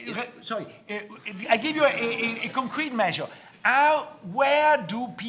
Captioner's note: audience laughing